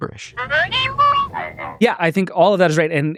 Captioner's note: toys speaking gibberish